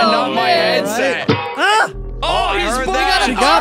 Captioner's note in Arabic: قعقعة معدنية; صرخات